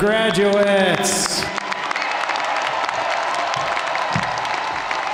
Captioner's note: audience applauding